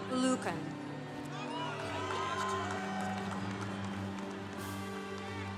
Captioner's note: congregation cheering